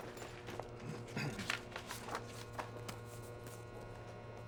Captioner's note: clears throat